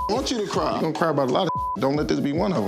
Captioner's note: beep